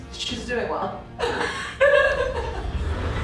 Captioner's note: laughing